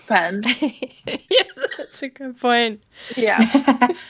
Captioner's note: laughing